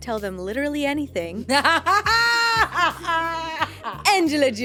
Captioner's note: laughs